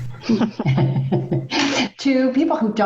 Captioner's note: laughing